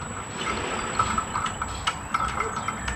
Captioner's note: metallic clattering